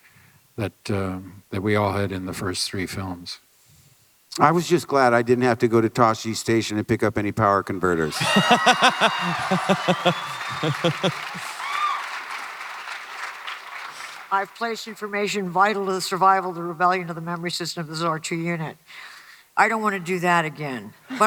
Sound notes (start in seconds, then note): 8.0 Hardwick laughs; 8.0 audience cheering